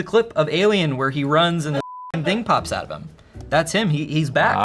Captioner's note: beep